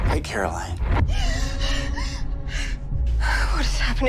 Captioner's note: Caroline panting